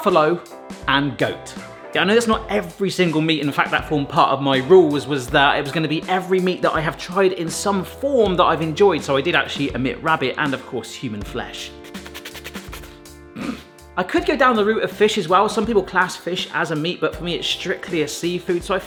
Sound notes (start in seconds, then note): 12.0 imitating Hannibal Lecter